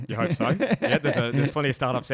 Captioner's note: laughs